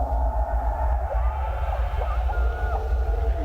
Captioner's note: muffled voice